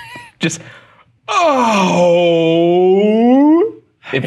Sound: laughing; groaning

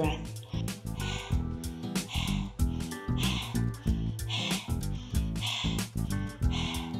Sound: gentle music; panting

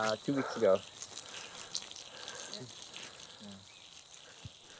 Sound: water spraying

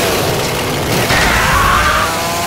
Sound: death Scream

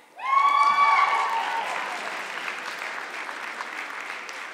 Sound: audience clapping

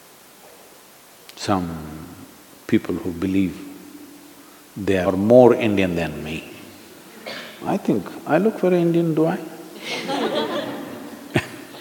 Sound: laughter

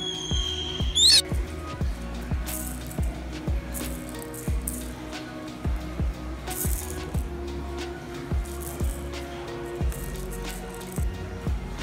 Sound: background music; toy rattle noises; background music

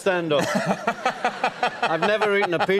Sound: laughter

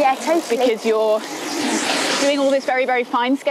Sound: car passing

